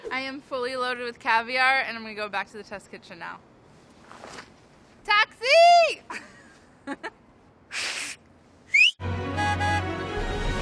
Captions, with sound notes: I am fully loaded with caviar and I'm going to go back to the test kitchen now. Taxi! [whistles] [honks]